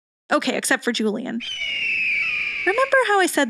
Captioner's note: caw